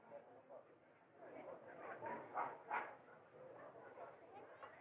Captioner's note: people Chattering